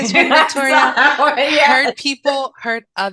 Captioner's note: laughing